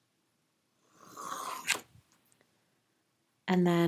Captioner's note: pencil scratching